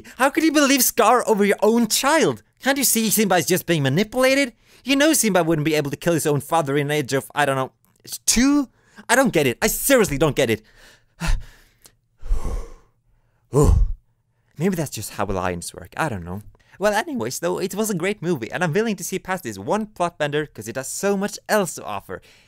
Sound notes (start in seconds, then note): 12.2 breathe out